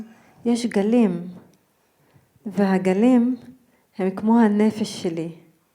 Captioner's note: speaking in foreign language